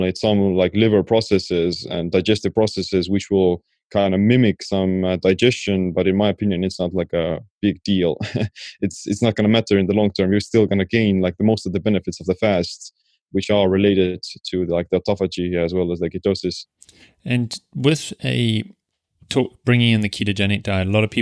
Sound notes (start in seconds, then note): 8.2 chuckling